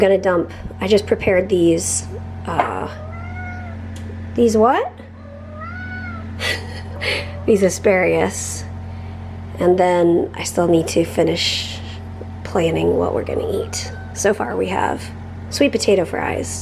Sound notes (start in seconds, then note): 2.7 Harry meows